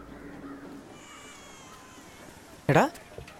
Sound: infant crying

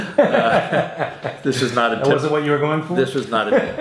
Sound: laughs

